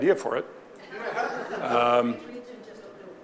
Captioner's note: audience laughing